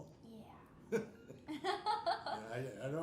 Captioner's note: laughing